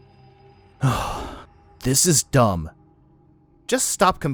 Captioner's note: sighs